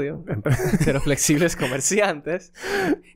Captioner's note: laughs